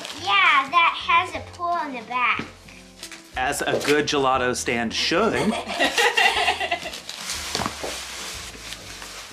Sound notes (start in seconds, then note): 5.4 laughing